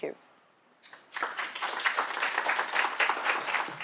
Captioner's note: applause